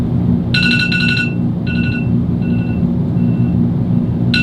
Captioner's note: alarm beeping